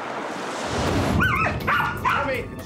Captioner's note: dog barking